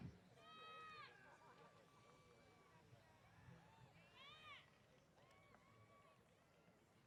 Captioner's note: cheers